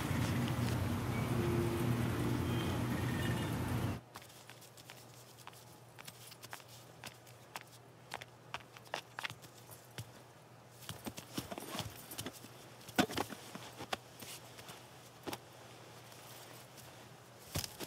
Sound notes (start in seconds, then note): 0.0 traffic sounds; 4.0 foot steps